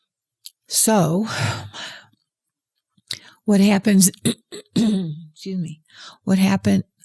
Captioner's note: clears throat